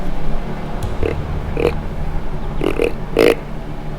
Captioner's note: grunting